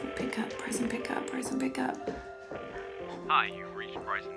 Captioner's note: phone ringing